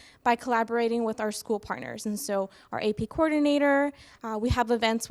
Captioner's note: none